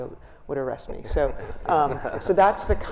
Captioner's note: panelists laughing